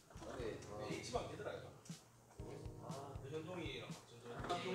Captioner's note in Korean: 떠드는 소리